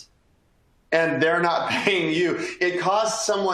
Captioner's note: laughter